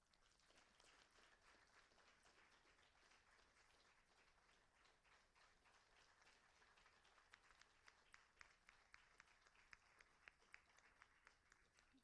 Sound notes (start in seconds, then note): 5.6 applauding